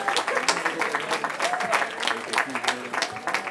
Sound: cheering

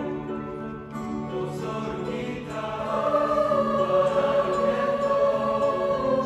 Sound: voices

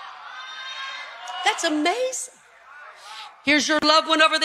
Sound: audience cheering

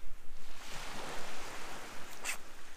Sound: sharpening sound

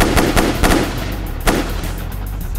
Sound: guns firing; fast music

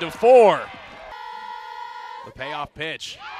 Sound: cheering

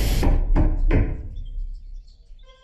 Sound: knocks twice

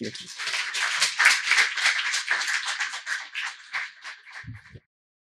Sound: applause

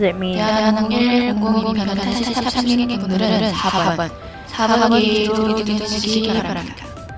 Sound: Korean

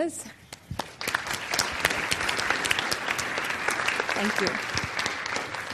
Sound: audience applauds

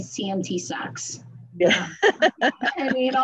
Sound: both laugh

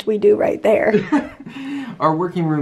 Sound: laughter

